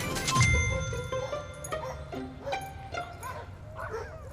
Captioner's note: dogs barking